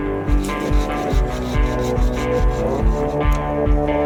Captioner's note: sawing